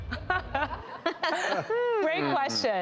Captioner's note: panel laughs